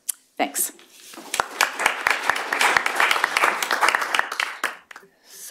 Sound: applause

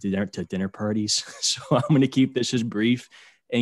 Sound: laughter

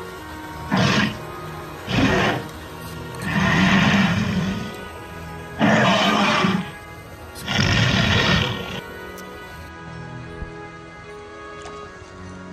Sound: spinosaurus growls

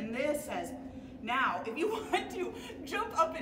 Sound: laughing

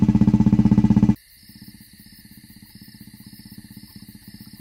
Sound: vehicle approaching

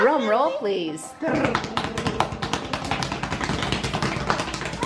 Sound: kids drum on table

